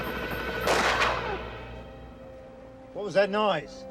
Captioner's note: gunshots blast